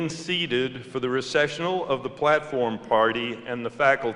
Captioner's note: none